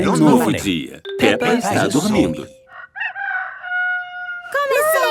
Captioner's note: cock-a-doodle-doo